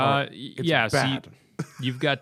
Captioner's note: laughter